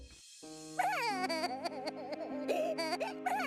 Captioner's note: sobbing